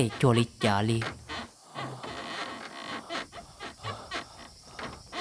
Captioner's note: creak... Creak